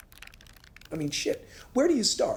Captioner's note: pages rattle